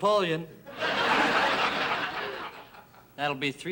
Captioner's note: audience laughing